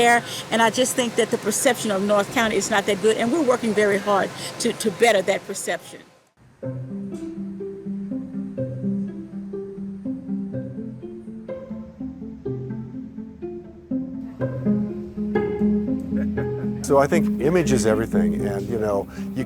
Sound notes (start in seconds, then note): 6.6 bright music; 14.5 bright music continues; 14.5 laughs